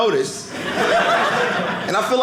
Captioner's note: audience laughing